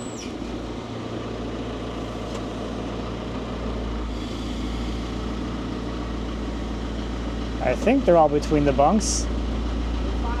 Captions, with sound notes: (engine humming continues) - I think they're all between the bunks.